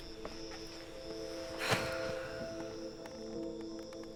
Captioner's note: sighs